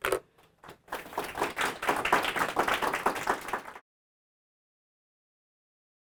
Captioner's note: applause